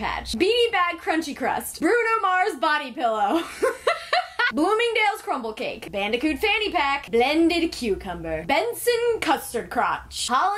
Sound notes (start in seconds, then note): 3.4 laughs